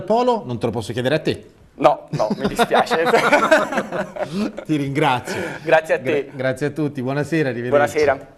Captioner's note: laugh